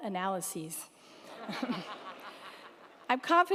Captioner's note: crowd laughing